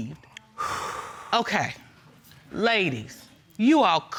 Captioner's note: exhales sharply